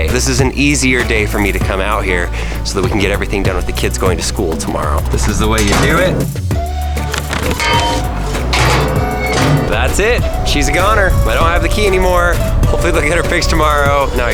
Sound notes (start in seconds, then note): 6.3 serendipitous music; 7.0 clanking